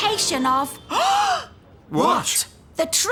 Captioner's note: gasp!